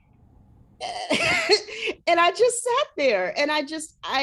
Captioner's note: chuckles